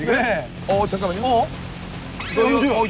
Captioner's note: shoot-out continues without a break